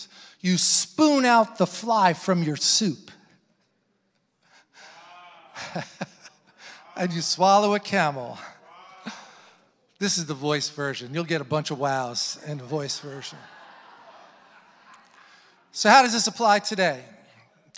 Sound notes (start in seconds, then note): 4.8 laughs; 14.0 congregation laughing